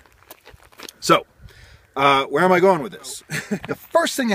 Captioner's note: chuckle